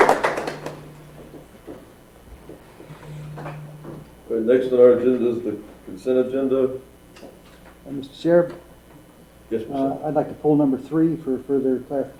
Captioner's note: applause